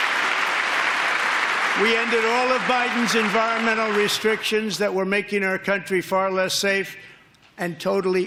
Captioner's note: applause